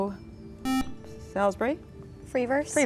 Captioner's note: buzzer